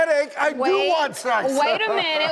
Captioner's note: laughs